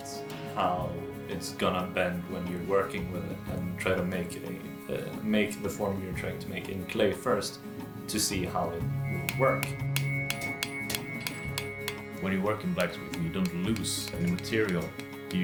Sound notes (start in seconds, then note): 9.2 hammer tapping; 10.3 peaceful music